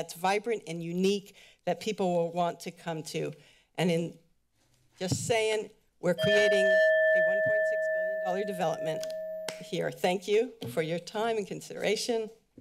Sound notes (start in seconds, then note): 6.2 timer Sound